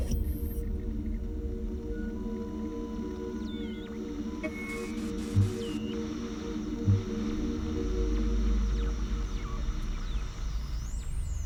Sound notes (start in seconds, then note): 3.4 static hisses and whines